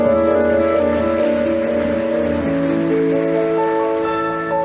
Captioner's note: audience applauding